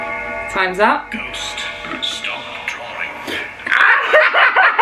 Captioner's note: ghostly voice; both laughing